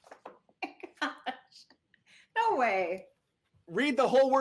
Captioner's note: laughs